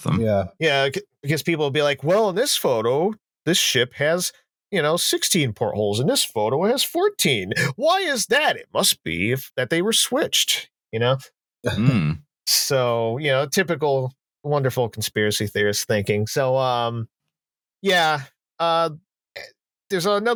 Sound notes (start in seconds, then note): 7.8 conspiracy voice; 11.9 chuckles